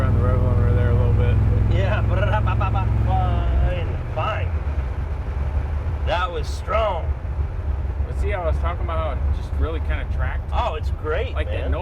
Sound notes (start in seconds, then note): 2.6 mimics engine